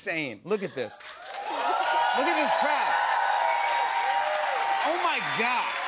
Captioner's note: cheers and applause